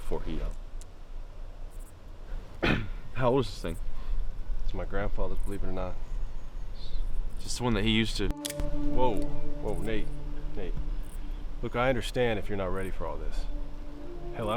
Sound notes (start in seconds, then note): 2.6 clears throat